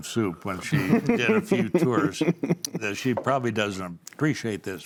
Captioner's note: laughing